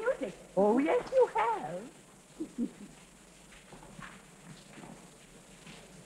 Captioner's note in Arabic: يضحك